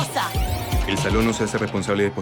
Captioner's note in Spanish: Locutor, muy rápido